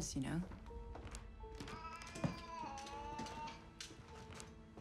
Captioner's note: cat yowls